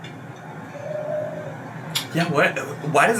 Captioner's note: pigeon coos